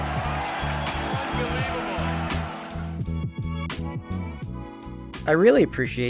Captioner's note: crowd cheering